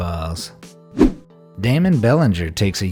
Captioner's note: air whooshing